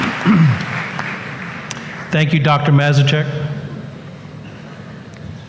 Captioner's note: applause